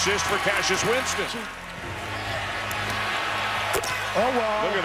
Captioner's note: crowd cheering